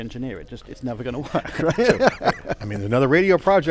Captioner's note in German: lacht